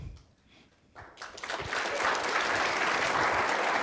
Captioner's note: applause